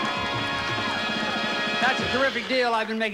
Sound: audience applauding

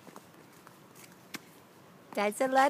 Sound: pause

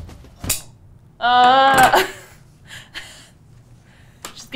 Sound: gasping

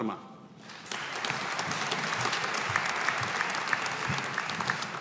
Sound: audience applauding

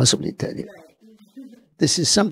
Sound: laughs

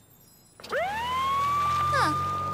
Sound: ambulance Siren

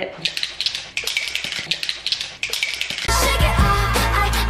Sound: metal clicking

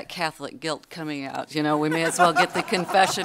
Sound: audience laughter

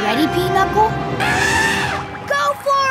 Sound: elephant horn

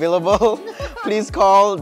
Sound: laughs

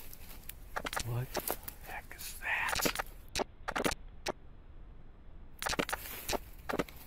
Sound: camera clicking

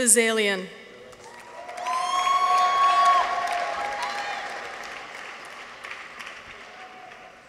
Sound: audience applauds; people cheer

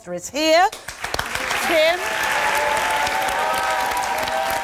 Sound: audience claps

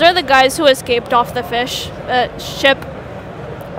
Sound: none

